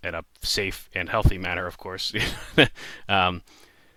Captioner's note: slightly nervous chuckle